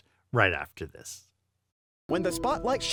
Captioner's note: voiceover